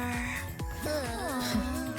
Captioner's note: groans